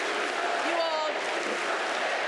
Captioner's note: crowd chanting